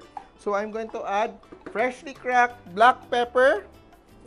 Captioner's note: knock